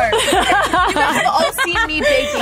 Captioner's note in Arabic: يضحك الجميع